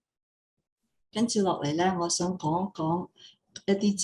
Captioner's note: non-english speech